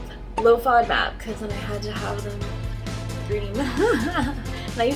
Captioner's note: laughs